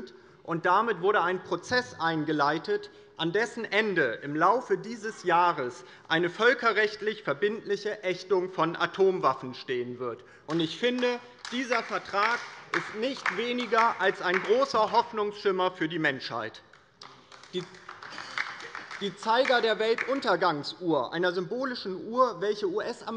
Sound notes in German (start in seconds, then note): 16.6 Beifall bei der LINKEN